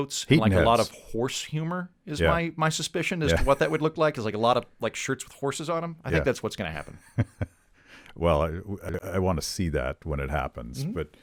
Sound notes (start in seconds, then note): 6.9 chuckling